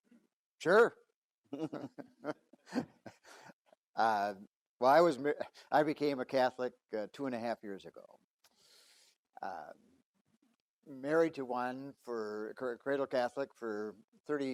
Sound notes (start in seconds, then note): 1.5 laughs